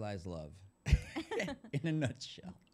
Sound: laughing

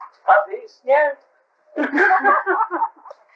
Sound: laughter

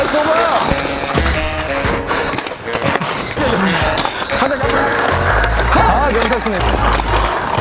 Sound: Inje is full of gunshots and breaths

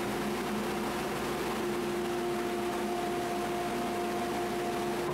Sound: machinery humming

